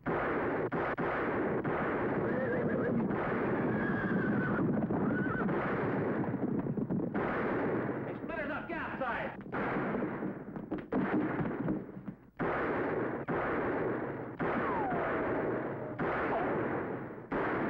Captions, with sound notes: (guns firing) (horses whinnying) - They split it up, get outside!